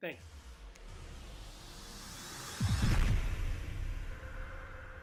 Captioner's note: electronic wooshing